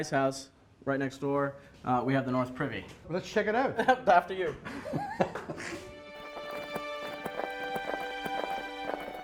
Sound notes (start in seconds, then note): 4.4 laughter